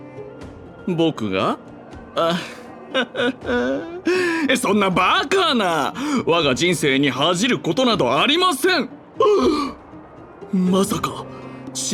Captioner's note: gasp